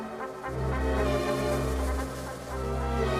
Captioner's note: none